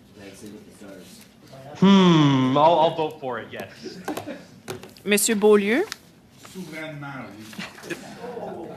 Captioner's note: laughter